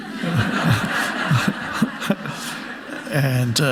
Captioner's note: audience laughing